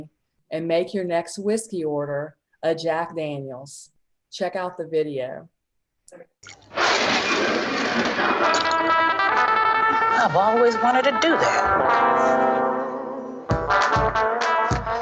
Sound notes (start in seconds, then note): 6.7 loud scratching noise; 8.2 upbeat music